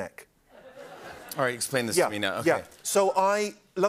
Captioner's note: laughter